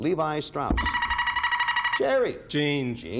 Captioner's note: buzzer beeping